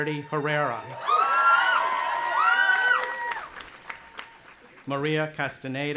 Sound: audience applauding and cheering

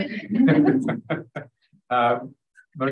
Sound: laugh

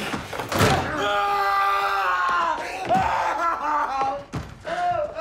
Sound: door slamming; screaming

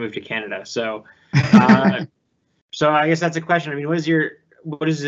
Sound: laughing

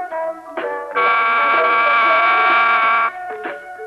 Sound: school Bell Rings

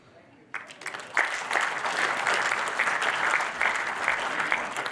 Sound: audience applauding

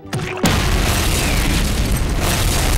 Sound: explosion

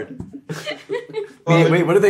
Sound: Gaten laughs

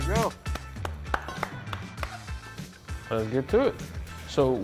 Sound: clapping

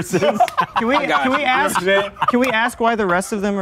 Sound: laughing

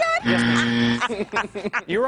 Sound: laughing

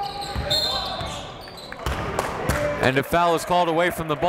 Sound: whistle

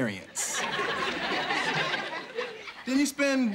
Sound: audience laughing

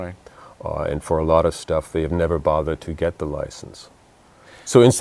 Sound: none

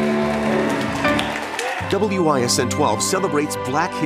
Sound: applause

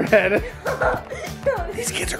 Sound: laughing

